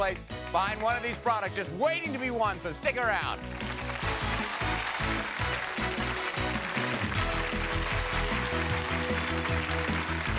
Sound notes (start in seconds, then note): 3.2 applause; 3.4 upbeat, energetic music